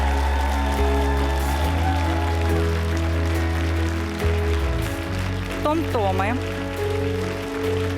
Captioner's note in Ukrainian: оплески